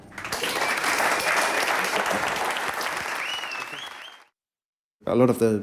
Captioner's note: clapping